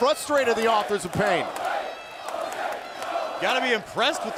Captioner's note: crowd cheering